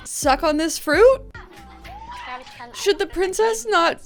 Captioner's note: speaking in German